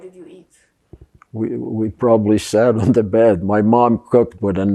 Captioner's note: laughing